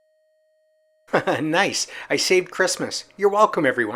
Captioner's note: laughs